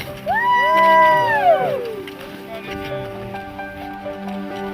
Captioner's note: cheers